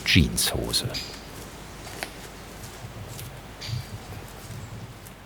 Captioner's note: quiet background noise, birds chirping